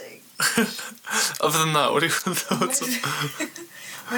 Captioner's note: laughing